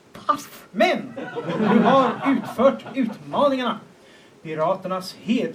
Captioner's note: laughter